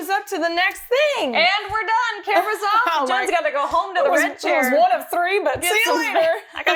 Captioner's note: laugher